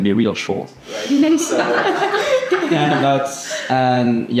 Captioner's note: laughs